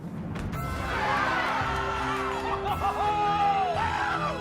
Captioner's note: crowd cheering